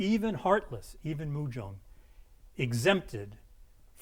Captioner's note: speaking in a foreign language